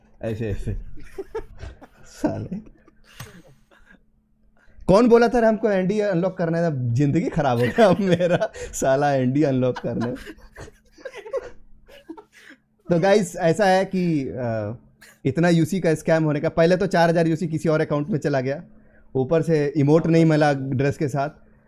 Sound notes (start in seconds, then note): 0.2 chuckles; 9.6 giggles; 9.6 giggles again